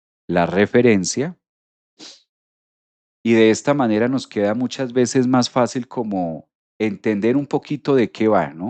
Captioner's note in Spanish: resoplido